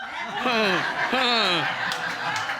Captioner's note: audience laughs